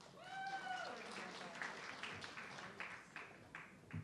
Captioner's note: audience clapping